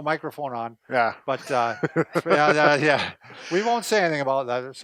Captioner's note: laughs